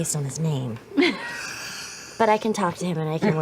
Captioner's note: laughs